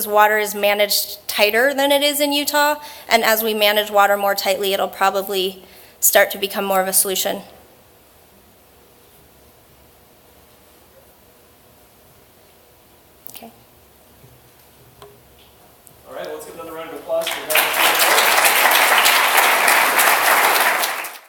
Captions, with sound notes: water is managed tighter than it is in Utah and as we manage water more tightly it'll probably start to become more of a solution. OK. All right, let's give another round of applause for Dr. Sarah Null. [APPLAUSE]